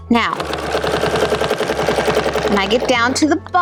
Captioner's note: machine whirring